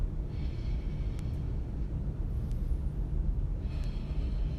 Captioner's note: inhales, exhales